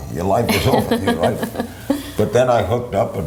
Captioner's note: laughs